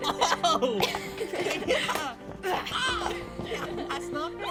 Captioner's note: both imitating fight grunting